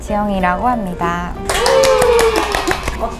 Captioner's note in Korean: 박수